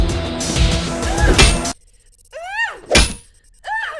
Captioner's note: metal clanging